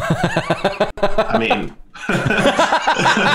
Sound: laughter

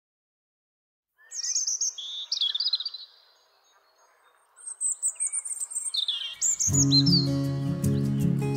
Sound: robin song

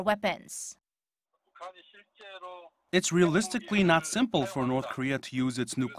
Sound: Korean

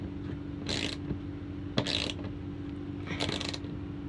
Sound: ratcheting

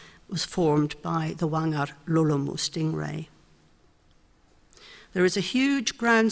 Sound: speaks foreign language

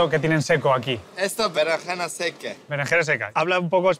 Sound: in spanish

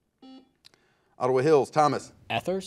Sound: buzzer buzzes

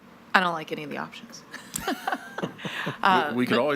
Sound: laughs

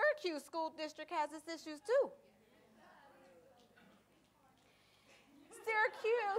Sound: audience laughter and murmurs

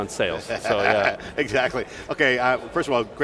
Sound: laughs

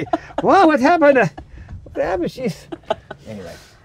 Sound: laughs

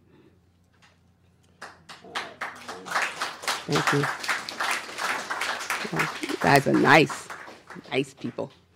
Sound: applause

